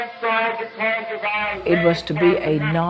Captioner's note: soundbite of archived recording